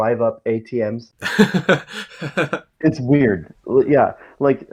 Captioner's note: laughs